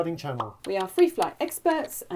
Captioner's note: pop sound